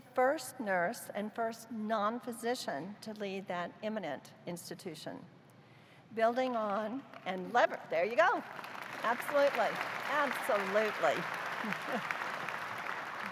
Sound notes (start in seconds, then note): 8.2 applause